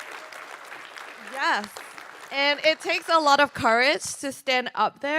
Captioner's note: applause